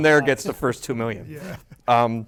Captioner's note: laughter